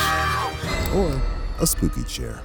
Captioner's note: screaming